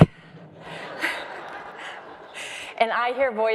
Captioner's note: crowd laughs